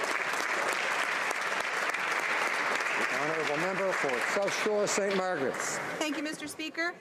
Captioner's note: speaking alternate language